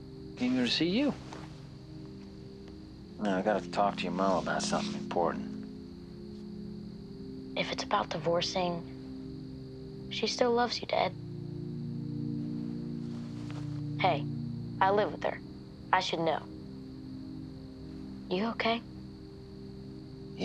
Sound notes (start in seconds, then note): none